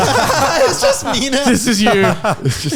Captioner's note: laughs